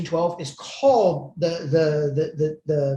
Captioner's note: speaks in foreign language